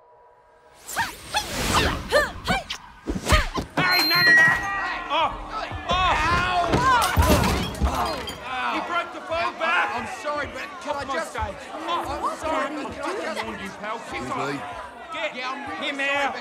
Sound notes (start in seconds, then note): 1.3 fighting grunts; 4.6 shouting; 6.1 shouting; 14.3 shouting continues